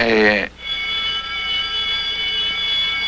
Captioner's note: bell ringing